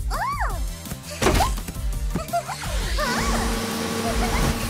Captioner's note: giggles